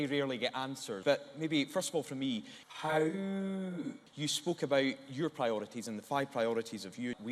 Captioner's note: howls softly